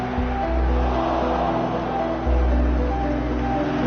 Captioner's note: crowd groaning